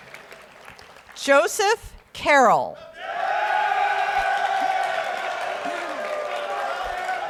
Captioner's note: audience roars and applauds